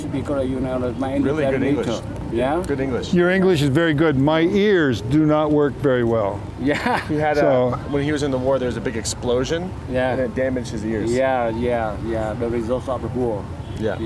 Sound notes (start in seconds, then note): 6.7 monk laughs